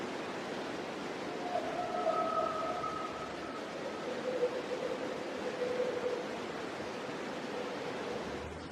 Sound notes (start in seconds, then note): 1.7 voices whooping; 1.7 white noise crackling